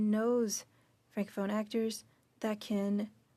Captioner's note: speaking French